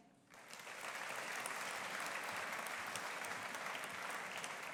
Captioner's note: audience applauding